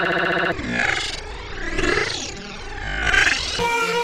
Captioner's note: heavily distorted and slowed noises